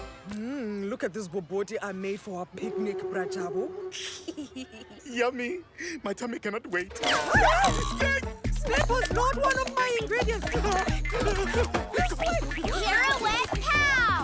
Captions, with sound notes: Mmm, look at this Bobotie I made for our picnic. (Snickers) Yummy! My tummy cannot wait! - (Shrieks) Snake! - Snake was not an ingredient! - Ahh! - This way! Pirouette Pow!